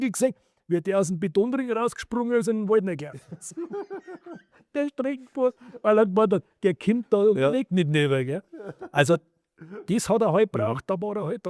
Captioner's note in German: gelächter